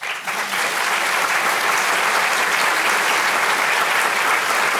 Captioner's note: audience applauding